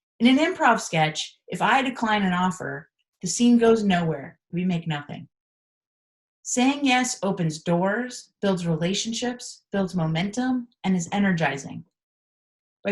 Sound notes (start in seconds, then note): none